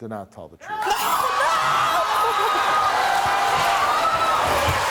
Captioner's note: audience cheering